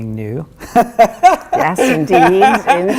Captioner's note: laughs